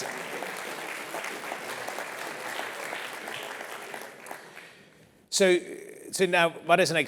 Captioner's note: applause